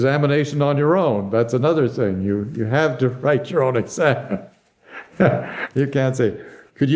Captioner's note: laughs